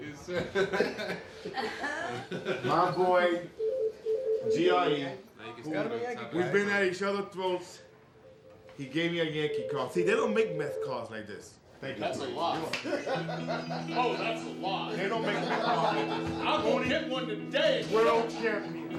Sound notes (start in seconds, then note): 15.1 laughs